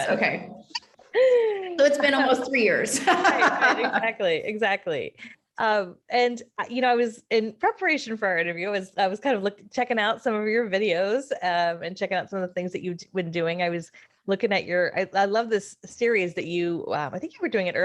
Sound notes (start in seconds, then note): 2.8 laughing